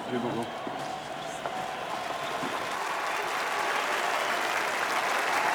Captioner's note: crowd cheering and applauding